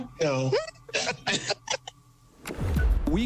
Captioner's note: laughs